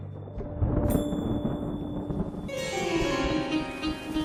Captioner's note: thunder rumbling